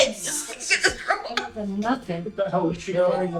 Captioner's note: coughing